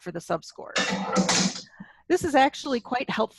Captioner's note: objects crash